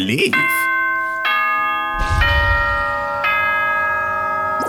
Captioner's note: ding dong bing bong